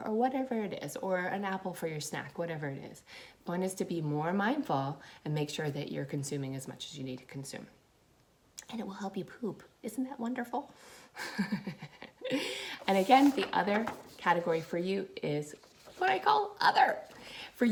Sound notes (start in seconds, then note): 12.4 laughs